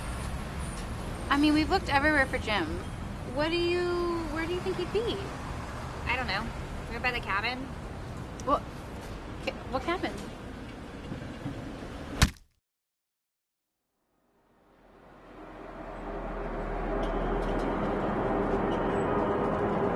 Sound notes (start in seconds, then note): 12.2 thwack; 14.3 eerie noise